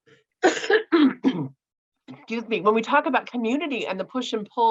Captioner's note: coughs